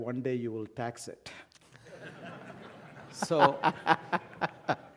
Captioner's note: laugh